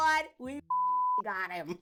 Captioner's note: beep